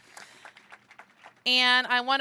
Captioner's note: applause